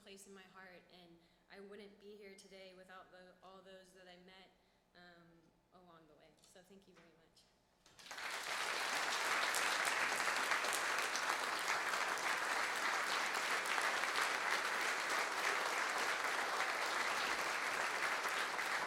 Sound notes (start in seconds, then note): 7.6 applause